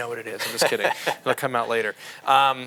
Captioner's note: laughs